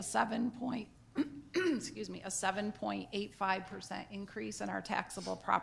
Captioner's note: clears throat